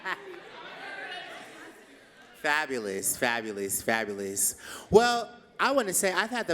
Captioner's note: laughs